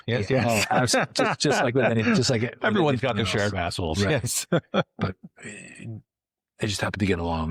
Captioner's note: laughing